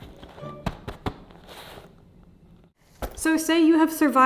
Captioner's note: bright music; bag ruffles